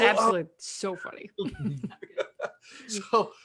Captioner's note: laughs